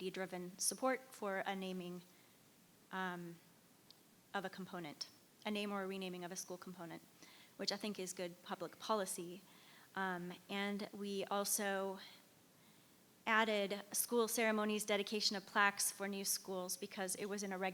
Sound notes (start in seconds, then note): none